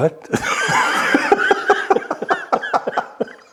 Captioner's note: laughing